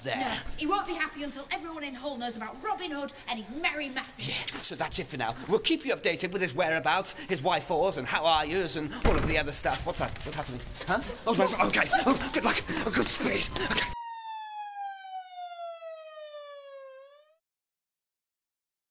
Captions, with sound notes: - No, he won't be happy until everyone in Hull knows about Robin Hood and his Merry Massive - So that's it for now. We'll keep you updated with his whereabouts, his why-fors and how-are-yas and all of the other stuff. What's that? [gate creaks] Huh, OK, good luck! Godspeed! [sirens]